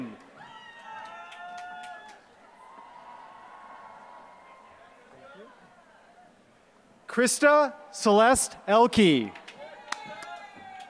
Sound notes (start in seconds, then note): 0.5 applause; 9.2 applause